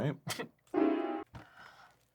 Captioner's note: swears